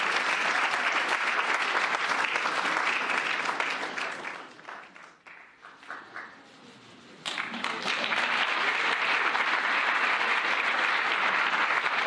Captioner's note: cheers and applause